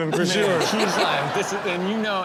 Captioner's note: crowd laughs